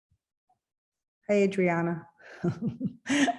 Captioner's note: chuckles